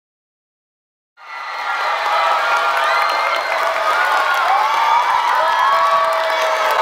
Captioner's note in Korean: 박수와 환호